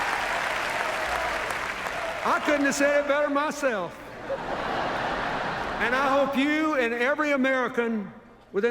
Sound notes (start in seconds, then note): 0.0 chuckles; 4.2 laughter